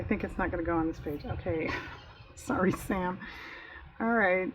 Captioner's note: laughs